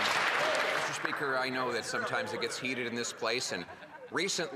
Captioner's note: applause